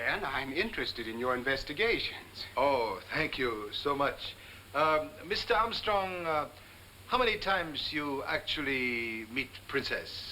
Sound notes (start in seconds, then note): none